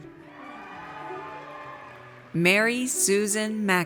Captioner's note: audience cheers